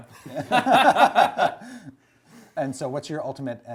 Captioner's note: laughing